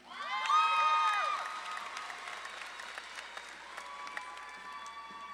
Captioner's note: audience claps and cheers